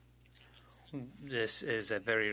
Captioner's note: speaking French